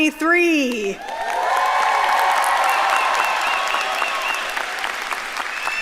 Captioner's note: audience cheering and applauding